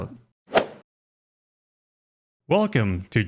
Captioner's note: golf swing sound effect